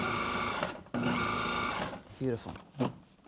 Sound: whirring

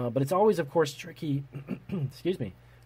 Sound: clears throat

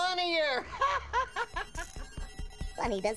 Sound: laughing

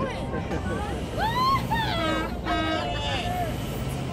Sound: cheers

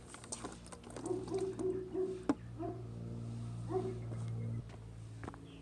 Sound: foot steps; keto barking, water splash; foot steps

